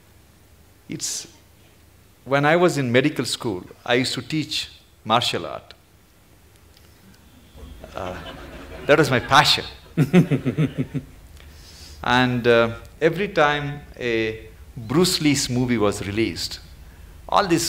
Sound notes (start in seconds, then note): 7.4 few Laugh; 10.2 Sadhguru Laughs